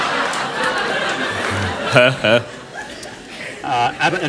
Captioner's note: laughter